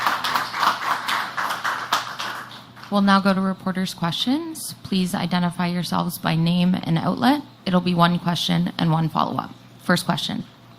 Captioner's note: applause